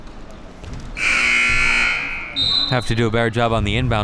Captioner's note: buzzer rings